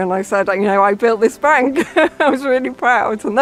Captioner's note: laughs